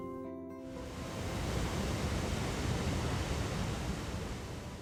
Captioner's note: water flows